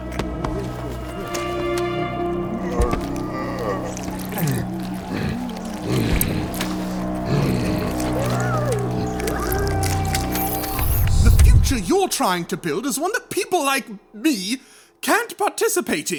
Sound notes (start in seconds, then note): 0.0 Thudding of appendages on the floor as Loam continues resisting; 0.0 laughing; 0.0 Thudding of appendages on the floor as Loam continues resisting; 4.5 Thudding of appendages on the floor as Loam continues resisting; 8.9 Loam gasping for air. Whoosh transition to the other side of the closed door